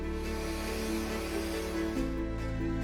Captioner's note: tool humming; gentle music continues